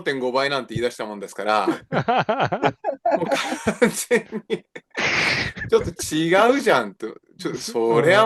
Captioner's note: laughs